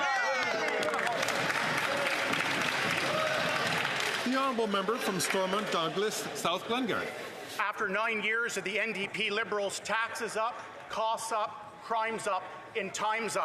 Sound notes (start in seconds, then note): 3.1 some Applause